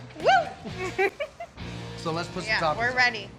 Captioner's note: giggles